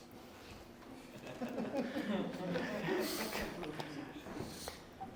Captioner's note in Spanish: Risas